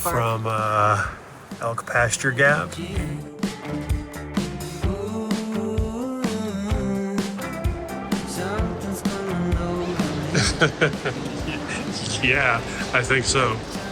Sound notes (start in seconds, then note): 3.3 upbeat music; 10.2 laughs